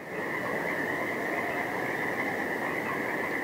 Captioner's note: wind howling